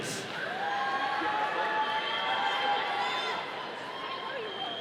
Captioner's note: audience cheering